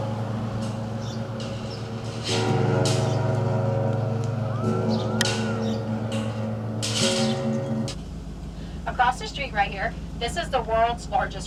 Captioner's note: chimes clanging